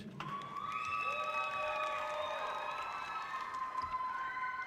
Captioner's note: audience cheering loudly